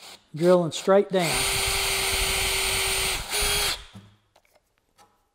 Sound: drill operating

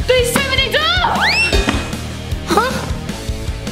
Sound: exclaiming

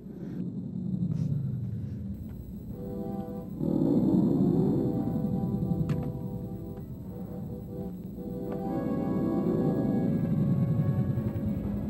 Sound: monster growls, followed by dramatic music

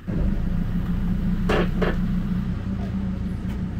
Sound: engine revving

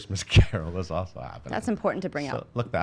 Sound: laughs; laughing

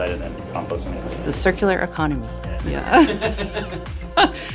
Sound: laughter

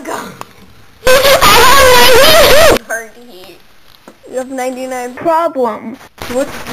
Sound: exTrEmElY LoUd LaUgHiNg

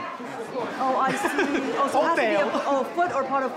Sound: laughs

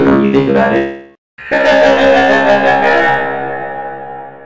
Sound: Maizey Laughing

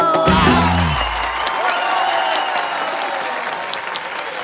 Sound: applause

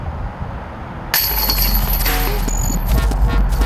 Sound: chains clanging

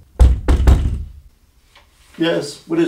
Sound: knock

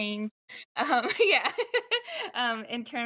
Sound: laughs

